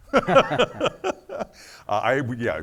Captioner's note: laughing